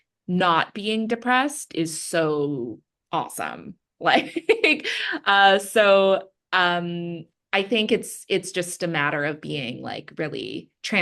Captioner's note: laughs